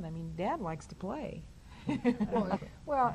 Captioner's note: laughs